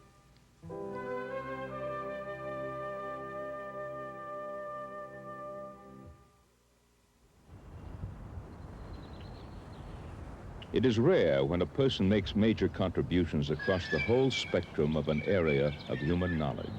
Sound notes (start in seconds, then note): 0.0 peaceful instrumental music; 8.4 birds chirping